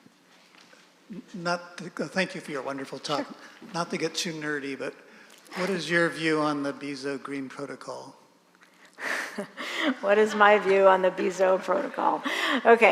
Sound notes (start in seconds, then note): 10.4 audience laughing